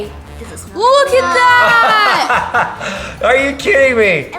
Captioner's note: laughs